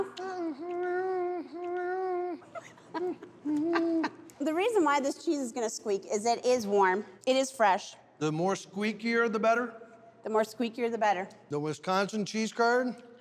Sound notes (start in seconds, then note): 0.0 humming, chewing; 2.5 laughing; 13.0 chewing squeakily